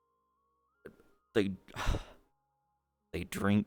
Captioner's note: sigh